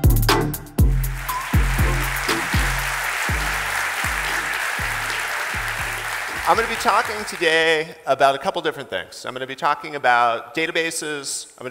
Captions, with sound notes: (audience applauding) - I'm gonna be talking today about a couple different things. I'm gonna be talking about databases.